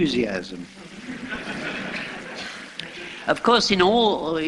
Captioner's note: laughter